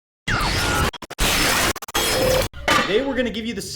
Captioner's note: static buzzes